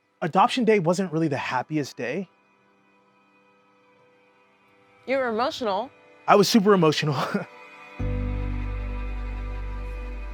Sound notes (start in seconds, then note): 7.0 chuckling; 7.9 soft music